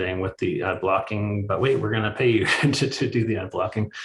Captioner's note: chuckles